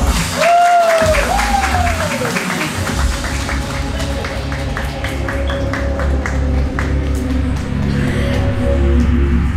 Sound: applause

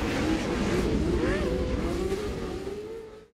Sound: cars zooming

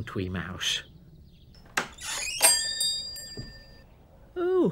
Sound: door creaks

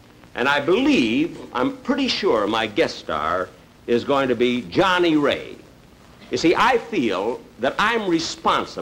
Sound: none

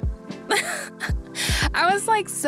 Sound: chuckles

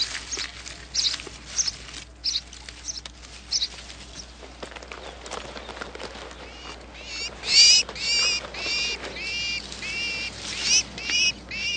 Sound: more birds chirping

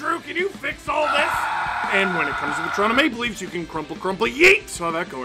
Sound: screaming

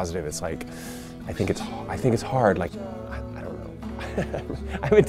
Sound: laughs

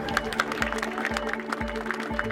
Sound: applause

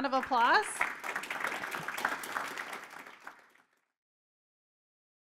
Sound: audience applauding

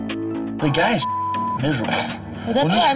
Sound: beep

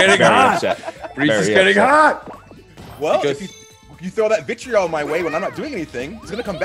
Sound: laugh

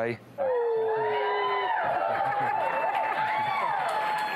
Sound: cheers

